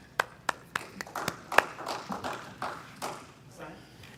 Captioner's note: applauds; audience applause